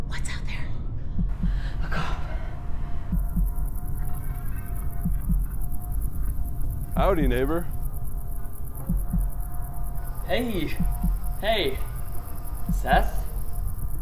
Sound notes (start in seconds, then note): 3.4 dramatic music; 3.4 insects chirping